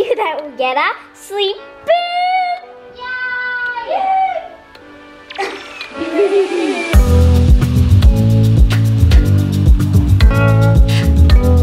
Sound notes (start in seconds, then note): 5.3 laughing